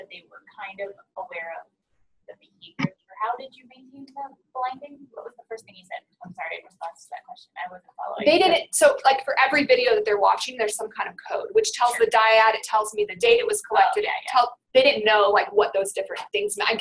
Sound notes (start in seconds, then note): 8.5 voiceover